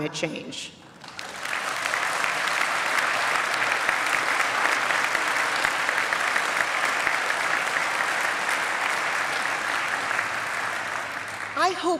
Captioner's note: applause